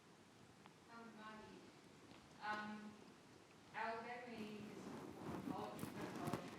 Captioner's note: faintly speaking